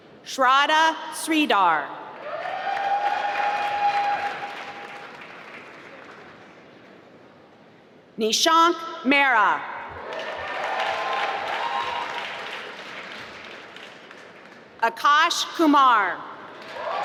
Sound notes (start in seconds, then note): 2.2 applause; 10.0 applause; 16.4 applause